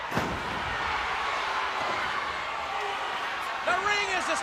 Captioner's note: crowd cheering